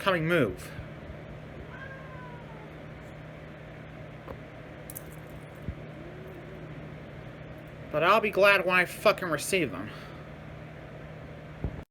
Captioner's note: Caprice meows in anger